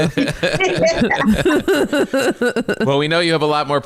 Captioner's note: all laughing